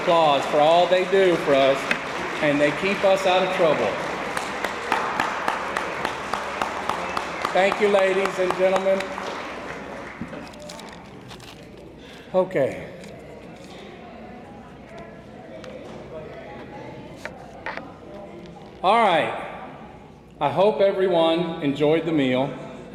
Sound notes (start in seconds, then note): 3.8 attendees applauding; 13.1 attendees chattering